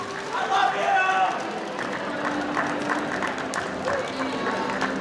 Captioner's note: audience applauding